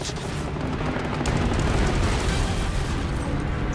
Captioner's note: explosion